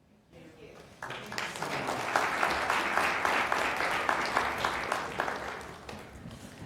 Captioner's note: applause